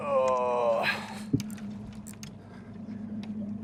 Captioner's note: groans